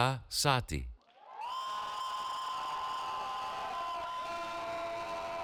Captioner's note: cheering